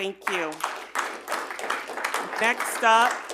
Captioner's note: audience applauding